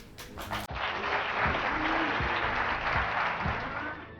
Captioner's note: audience clapping